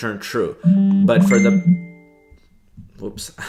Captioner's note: phone beeps